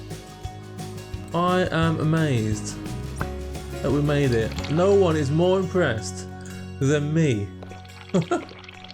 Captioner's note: laughs